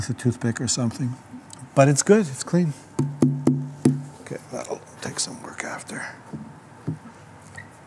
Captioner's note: taps on sound board